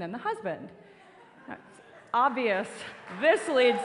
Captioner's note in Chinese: 笑聲